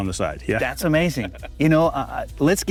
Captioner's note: laughs